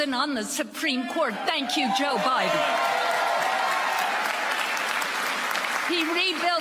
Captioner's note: applause